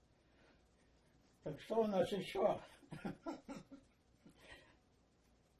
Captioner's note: laughing